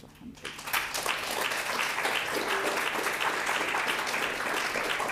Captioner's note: audience applauding